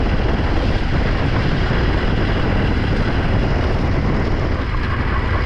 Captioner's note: thunder rumbling